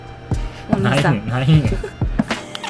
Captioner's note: laughs